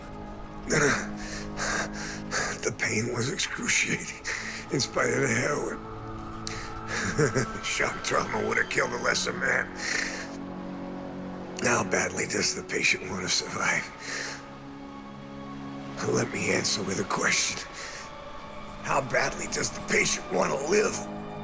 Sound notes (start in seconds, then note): 6.0 pencil scratching